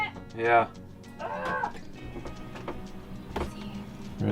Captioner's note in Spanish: chillando